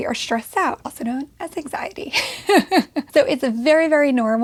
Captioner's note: laughs